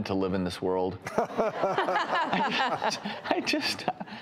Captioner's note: laughter